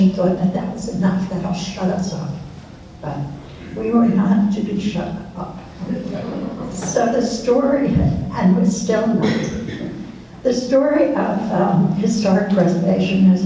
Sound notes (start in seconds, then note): 5.8 laughs